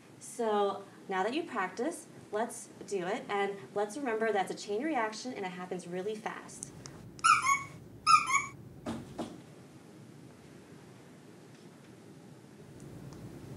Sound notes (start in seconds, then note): 7.2 horn squeaks